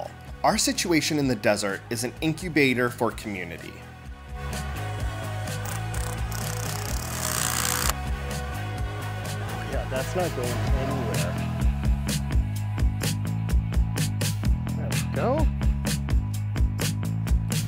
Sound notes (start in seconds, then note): 5.6 tool noise